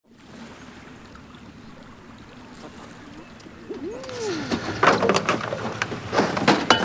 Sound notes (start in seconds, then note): 0.2 waves splash; 4.2 tools rattle